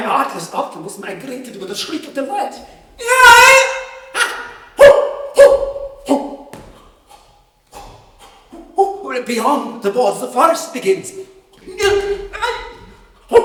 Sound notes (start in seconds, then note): 2.7 shrieks: ape noises; 10.0 more shrieks: bangs